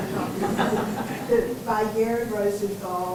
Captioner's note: laughter